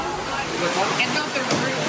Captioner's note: background chatter